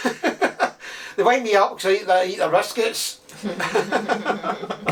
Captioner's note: laughs; laughs